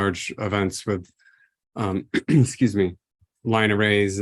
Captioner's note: clears throat